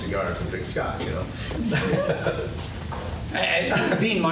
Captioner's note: laughs